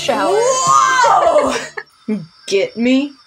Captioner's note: giggle